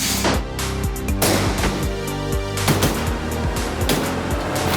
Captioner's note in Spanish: Disparos